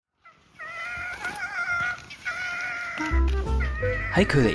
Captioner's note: sound of fox